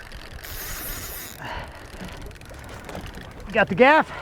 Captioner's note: fishing rod reeling